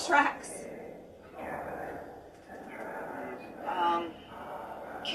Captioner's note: mysterious whisper chanting